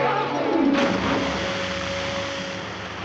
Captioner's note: splashing